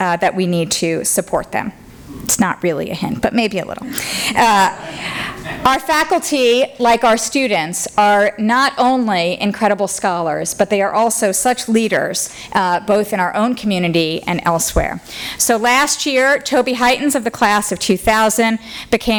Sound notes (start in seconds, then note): 4.5 laughter